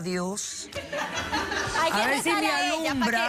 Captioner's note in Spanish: risas